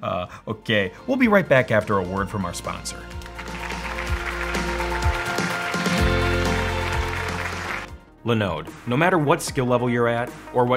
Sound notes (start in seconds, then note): 3.0 clapping; 3.0 energetic music